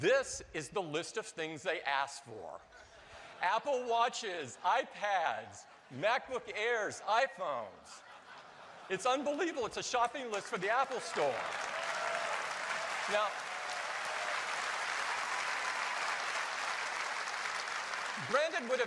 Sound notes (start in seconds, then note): 3.9 laughter; 12.6 applause